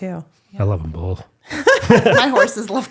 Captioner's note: all laughing